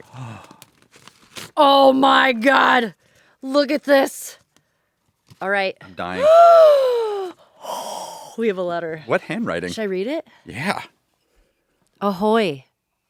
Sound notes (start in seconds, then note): 6.2 gasps again